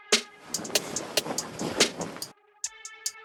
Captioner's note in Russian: звуки постели